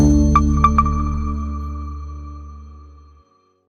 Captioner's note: logo beeping